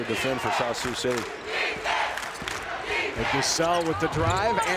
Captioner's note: crowd chanting